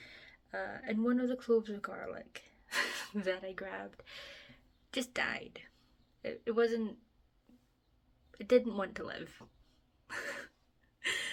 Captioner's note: laughs